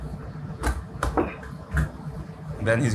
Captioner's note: rolling pin thuds